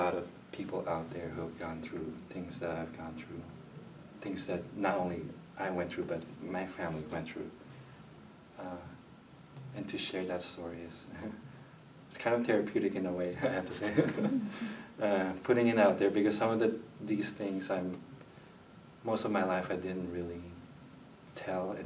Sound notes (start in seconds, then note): 13.4 chuckles